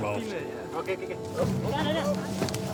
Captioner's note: indistinct chatter